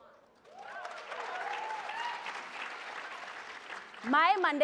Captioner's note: audience applauds